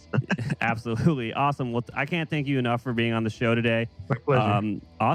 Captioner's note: laughs